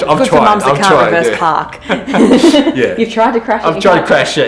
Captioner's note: laughing